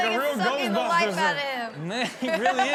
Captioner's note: laughs